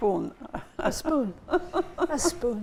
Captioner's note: laughing